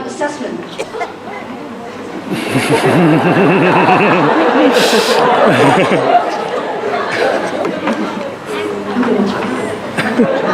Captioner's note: graduate coughs; laughter